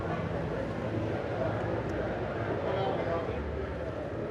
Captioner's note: guests chattering